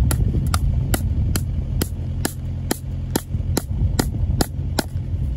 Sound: hammer clunking on metal fixings

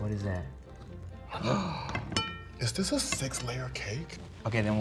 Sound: gasps

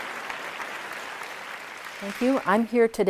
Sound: applause

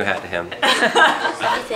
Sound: laughter

